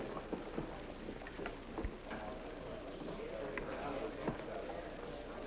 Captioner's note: audience chattering